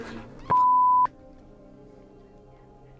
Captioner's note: klaxon blares; beep; mysterious music